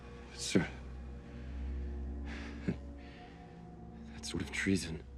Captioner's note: low suspenseful music; breathing heavily